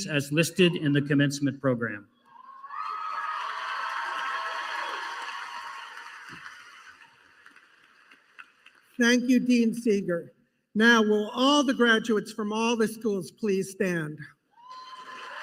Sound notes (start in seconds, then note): 2.4 applause